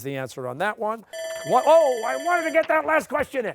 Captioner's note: bell ringing